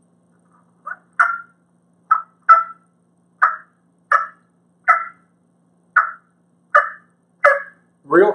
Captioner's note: cluck noise